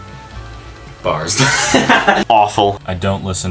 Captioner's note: laughing